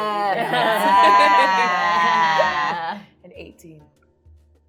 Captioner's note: laughing